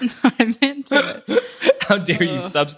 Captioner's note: both chuckle